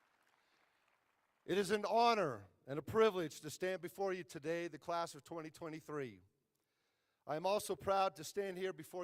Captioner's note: applause